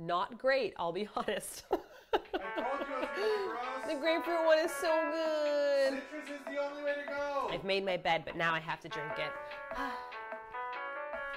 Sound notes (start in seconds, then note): 1.8 laughs; 9.6 sighs